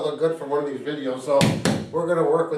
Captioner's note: hands tapping